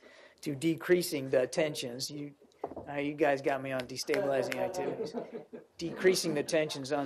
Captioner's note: laughter